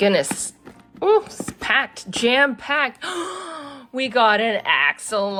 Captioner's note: gasps